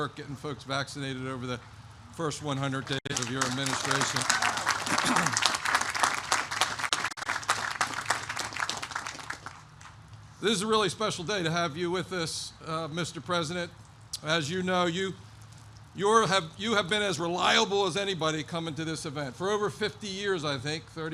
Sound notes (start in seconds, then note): 4.8 applause